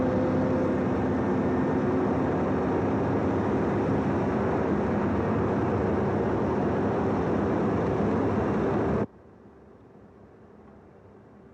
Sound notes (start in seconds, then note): none